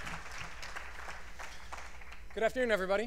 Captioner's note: cheers and applause